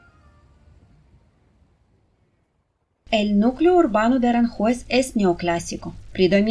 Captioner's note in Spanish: Ruido apagado del tráfico de vehículos y de la calle